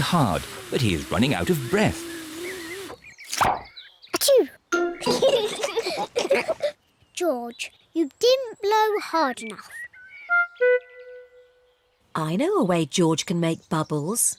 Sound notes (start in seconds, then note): 4.1 sneezes; 5.0 both giggle